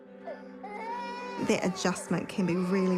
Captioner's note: child cries